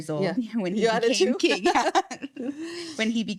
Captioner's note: laughing